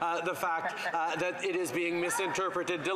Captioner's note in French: voix de l'interprète